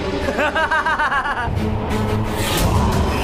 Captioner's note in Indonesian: tertawa